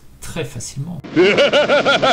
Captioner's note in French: rire